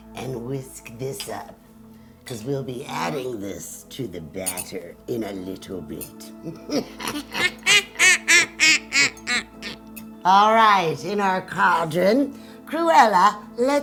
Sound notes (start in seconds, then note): 6.4 both laughing